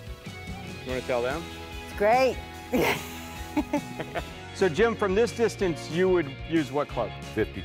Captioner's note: both laugh